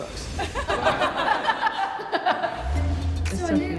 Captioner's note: laughing